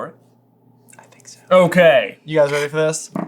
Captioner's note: whispers